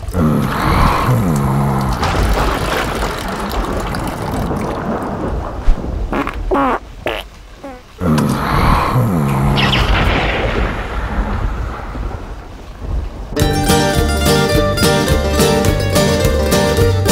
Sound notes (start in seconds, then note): 1.0 urine splashes; 6.1 cowboy farts; 13.3 upbeat cowboy music